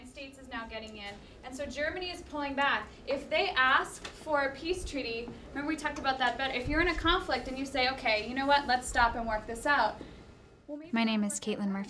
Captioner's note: classroom discussion